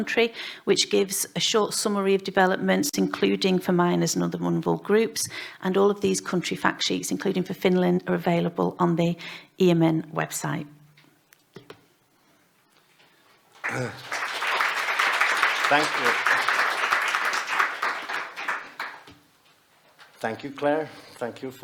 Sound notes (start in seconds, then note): 13.6 clapping